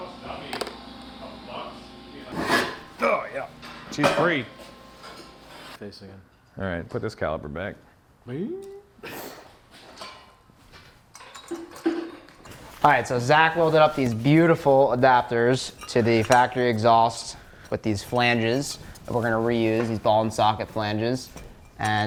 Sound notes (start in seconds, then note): 8.4 exclaims softly; 9.5 snickers softly